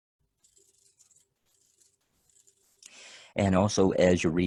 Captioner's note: electronic rattlings